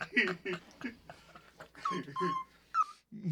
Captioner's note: laughing